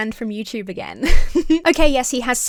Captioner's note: giggles